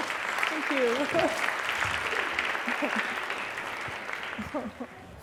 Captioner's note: applause